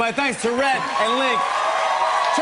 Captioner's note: cheers and applause